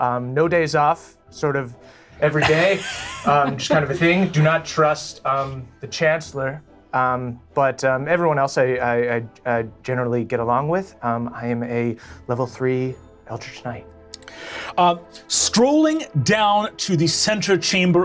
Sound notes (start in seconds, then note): 2.3 laughing